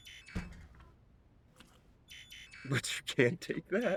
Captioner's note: error buzz